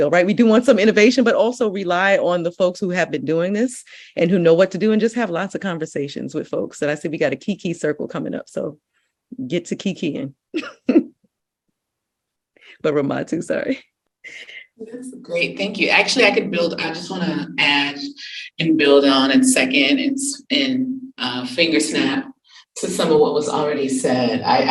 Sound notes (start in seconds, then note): 10.5 chuckles